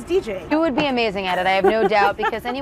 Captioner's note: laughs